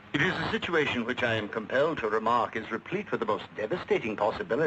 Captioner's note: none